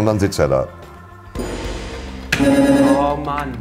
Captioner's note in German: Gong